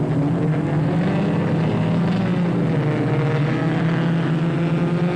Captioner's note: engines revving